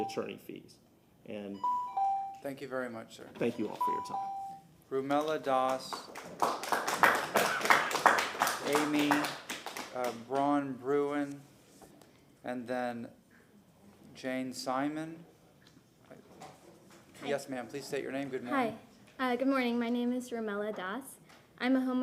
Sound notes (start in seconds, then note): 10.4 applause